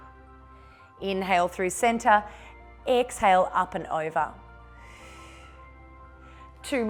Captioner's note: exhales; exhales